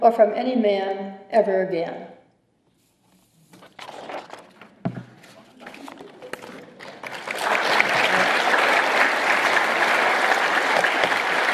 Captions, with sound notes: or from any man ever again." [CHUCKLING] [APPLAUSE]